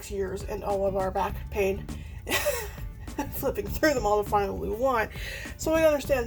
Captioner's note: laughs